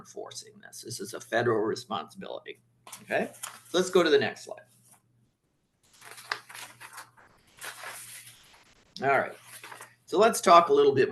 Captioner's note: papers rustling